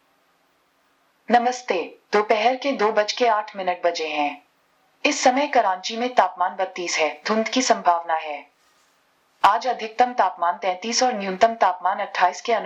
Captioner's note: speaking Hindi